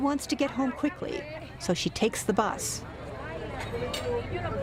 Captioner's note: speaking spanish